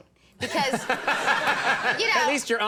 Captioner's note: crowd laughs